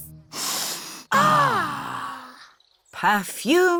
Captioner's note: all sniff